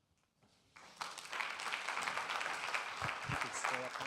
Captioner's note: audience claps